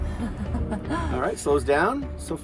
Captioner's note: chuckles